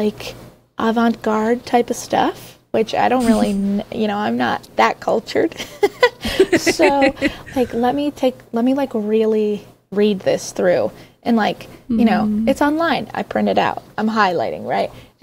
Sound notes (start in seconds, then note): 6.0 laughing